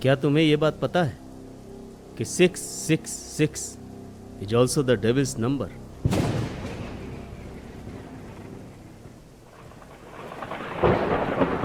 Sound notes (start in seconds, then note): 6.0 epic thunderstorm